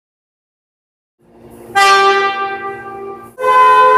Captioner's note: air Horn